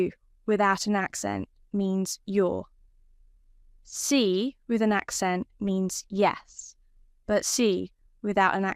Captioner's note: with an accent; with an accent